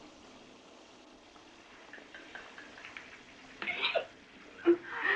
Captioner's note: laughing